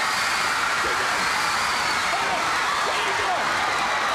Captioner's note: crowd cheering